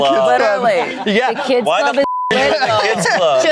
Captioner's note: beep